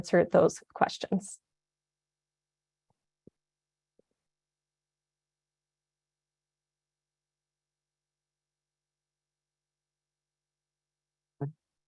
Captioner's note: silence